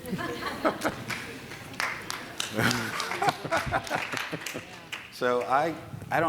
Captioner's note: chuckling and clapping